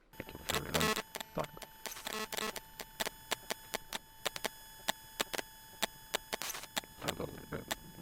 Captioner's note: strong electronic interference, heavily damaged audio